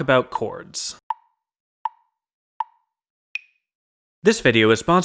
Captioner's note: tick, tick, tick, tick, tock